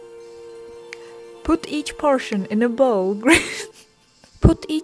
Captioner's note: laughs